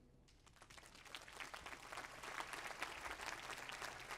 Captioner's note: applause